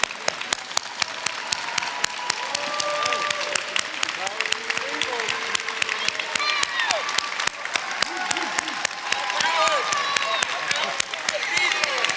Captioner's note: applause